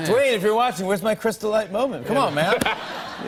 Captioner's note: laughter